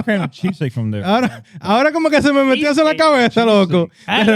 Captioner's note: speaking In Foreign Language